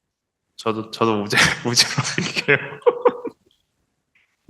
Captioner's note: laughs